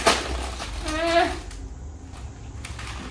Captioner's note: whining